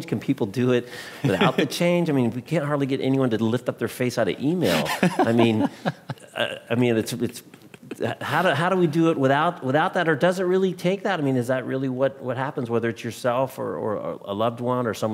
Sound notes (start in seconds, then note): 4.6 laughing